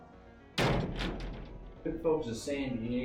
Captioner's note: door bangs shut